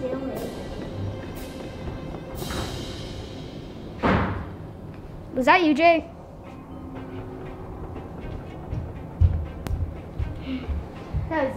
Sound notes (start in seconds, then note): 3.9 door slams